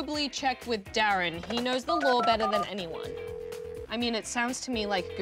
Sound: phone rings

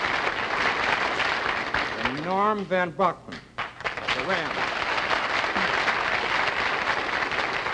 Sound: applause

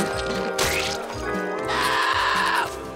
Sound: screaming

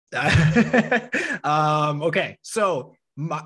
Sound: chuckling

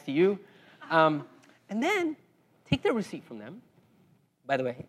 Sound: laugh

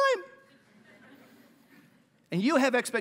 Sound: laughter

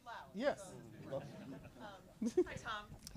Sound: audience chuckles

